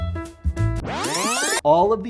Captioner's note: audio rewinds